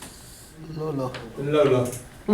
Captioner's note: voiceover